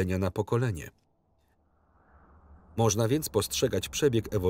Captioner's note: wind howls